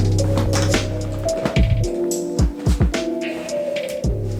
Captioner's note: crunching